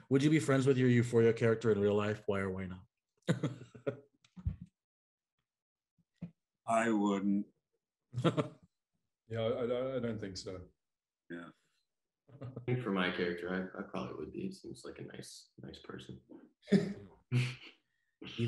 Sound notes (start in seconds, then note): 3.3 chuckling; 8.2 chuckling; 17.3 man chuckling